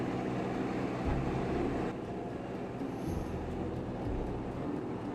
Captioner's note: aircraft engine roaring